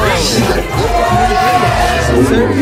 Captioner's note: Bangtan cheer